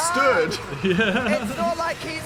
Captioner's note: laughs